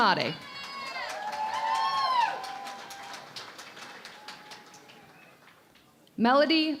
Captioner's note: cheering and Applause